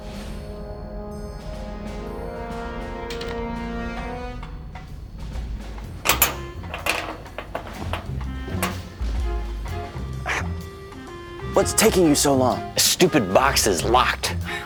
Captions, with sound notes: (door locks) What's taking you so long? This stupid box is locked!